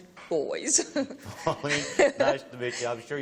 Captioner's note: laughter